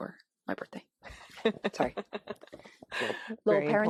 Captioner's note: laughs